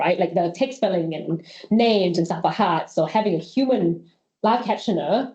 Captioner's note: none